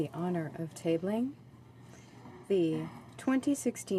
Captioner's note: speaking French